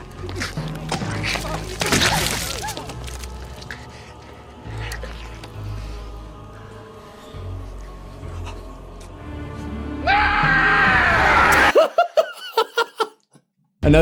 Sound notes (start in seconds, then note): 5.2 hilarious scream; 11.4 laughing